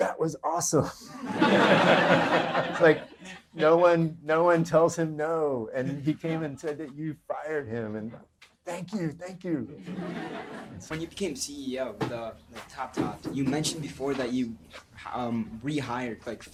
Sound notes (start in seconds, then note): 1.2 audience laughter; 9.8 audience laughter